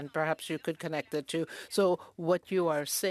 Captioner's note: speaking French